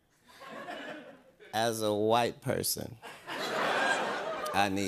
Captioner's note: laughter